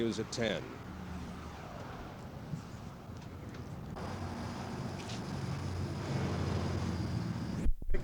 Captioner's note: street noise